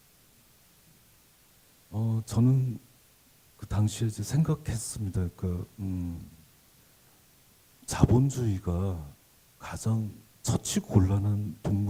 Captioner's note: speaking Korean